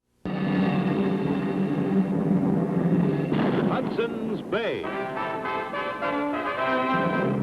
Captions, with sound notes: (ominous music) (cannon booms) - "Hudson's Bay!" (dramatic music)